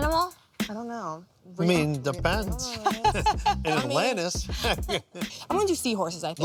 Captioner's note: chuckles